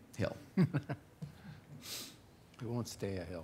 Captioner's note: man laughing